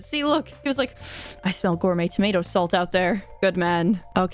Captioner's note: sniff